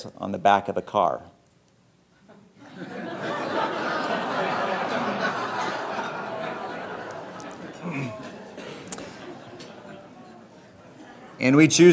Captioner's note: audience laughing